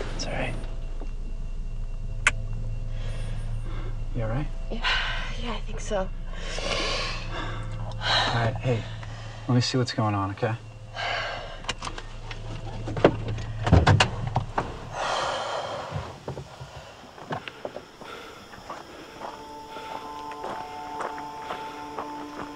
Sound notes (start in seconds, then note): 6.1 breathes deeply; 11.1 Amanda breathes deeply; 17.4 insects chirping; 17.4 man panting; 19.3 suspenseful music